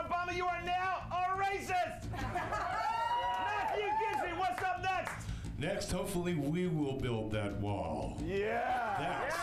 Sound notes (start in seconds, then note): 2.1 laughter; 2.5 audience cheers